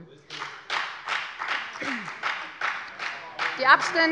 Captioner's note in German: Beifall bei der FDP